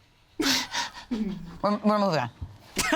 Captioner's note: laughs